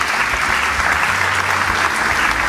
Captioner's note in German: Applaus